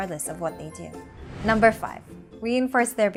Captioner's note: text bubble whooshing